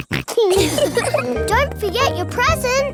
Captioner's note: snorts; laughs